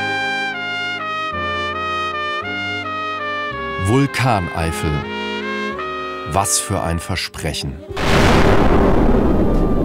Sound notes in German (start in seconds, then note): 0.3 Sanfte, getragene Musik; 7.9 Lautes Dröhnen